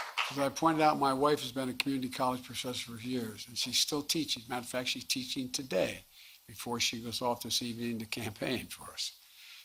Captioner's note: applause